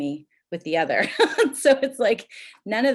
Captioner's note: chuckles